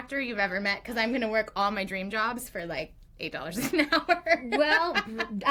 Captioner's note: laughs